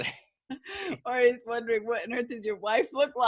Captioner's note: laughing